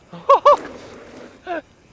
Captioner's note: laughs